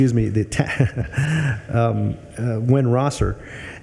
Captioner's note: laughing